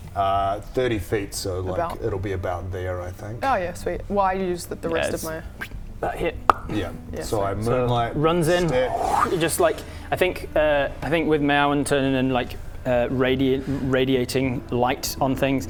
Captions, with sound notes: 30 feet, so it'll be about there, I think. Oh yeah, sweet. Well, I use the rest of my... About here *pop!* - Yeah, so I Moonlight Step... - So runs in... You just like... I think with Mayawen and turning and like... radiant - radiating light on things